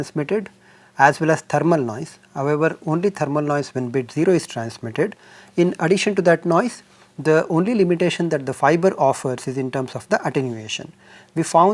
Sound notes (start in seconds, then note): 4.3 thermal noise